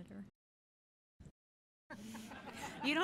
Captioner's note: laughter